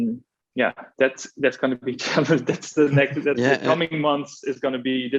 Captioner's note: chuckles